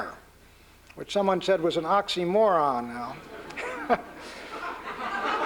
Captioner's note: laughter; scoffs